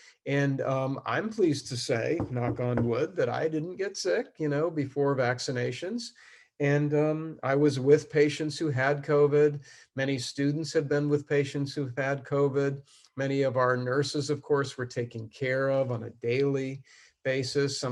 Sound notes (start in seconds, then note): 2.2 knocking sound